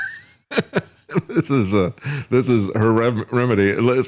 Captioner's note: laughs